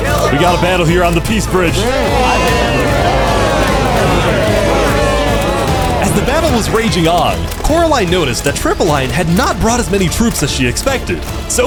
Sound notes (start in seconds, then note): 0.0 shouting, commotion; 2.0 shouting